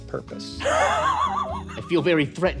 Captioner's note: players laughing